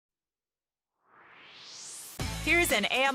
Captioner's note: swoosh